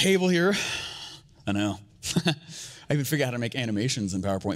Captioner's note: sighing